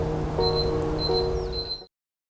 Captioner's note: beeping